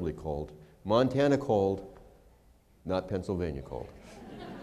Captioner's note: laughter